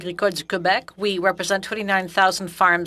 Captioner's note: speaking French